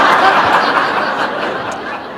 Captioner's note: laughter